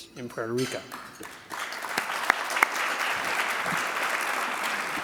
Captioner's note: audience clapping